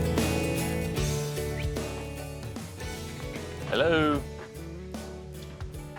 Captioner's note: whistles